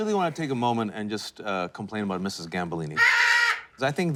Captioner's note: parrot squawks